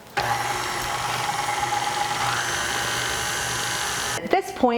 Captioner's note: mixer whirring